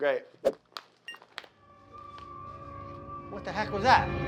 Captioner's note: dark eerie music; light beeps on